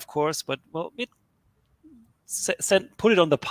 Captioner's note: computer signal cracks